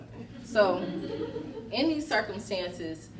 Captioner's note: laughter